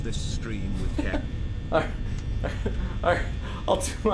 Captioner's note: laughs